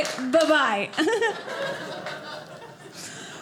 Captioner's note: audience laughing